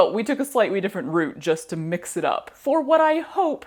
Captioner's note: none